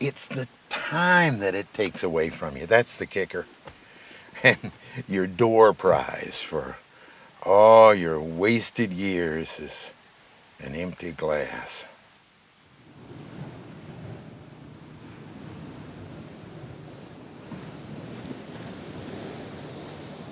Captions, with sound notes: It's the time that it takes away from you. That's the kicker, and your door prize for all your wasted years is an empty glass. (fire faintly crackling) (crickets chirping)